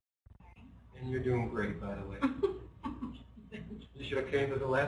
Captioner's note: student talking